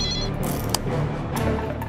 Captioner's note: button clicks